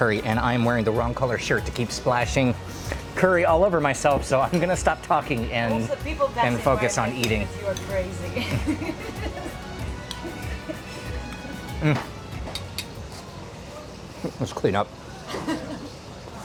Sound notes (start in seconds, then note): 11.2 laughing